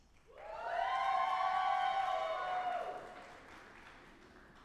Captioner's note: audience applauding